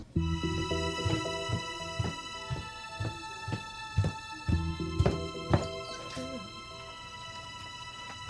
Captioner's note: footsteps